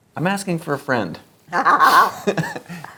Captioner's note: laughs